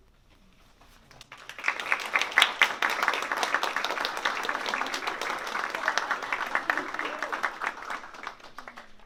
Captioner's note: applause